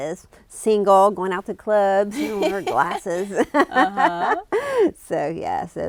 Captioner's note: laughs